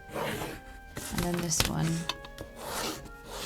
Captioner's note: pencil scratches